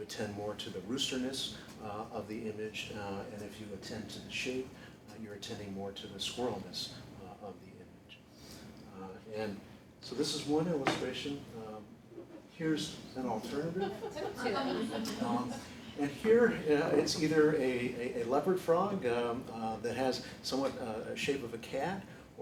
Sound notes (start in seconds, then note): 13.4 laughter